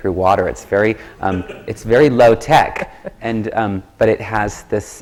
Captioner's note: laughter